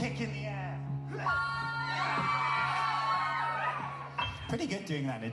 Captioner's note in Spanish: ovación del público